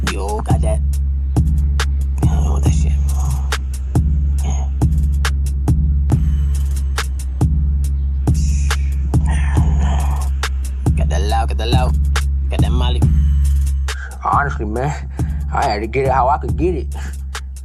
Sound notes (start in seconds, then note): 2.1 disappointed gibberish; 8.3 scoffing